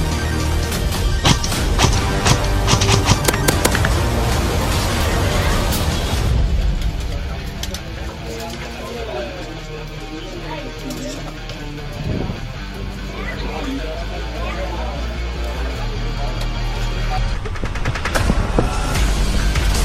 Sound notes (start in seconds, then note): 2.8 instinctively chatter